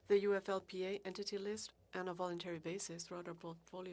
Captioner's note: speaking French